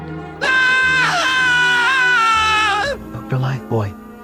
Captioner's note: Dr. Lifebuoy Screaming